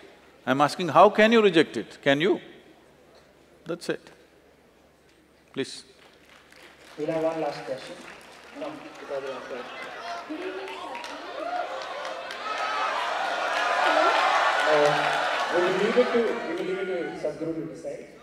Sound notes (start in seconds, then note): 5.8 applause; 14.7 cheers